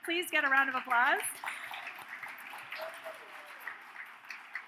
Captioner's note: audience cheers